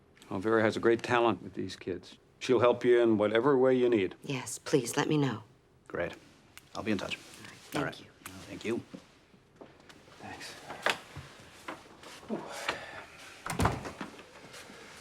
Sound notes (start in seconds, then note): 12.2 exhales